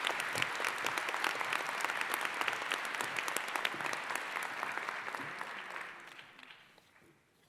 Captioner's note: applause